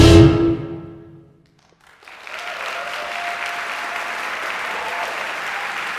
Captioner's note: applause